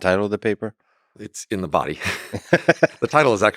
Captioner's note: Lex chuckles